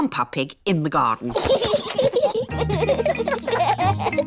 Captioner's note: both laughing